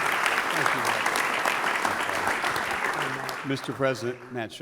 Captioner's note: applause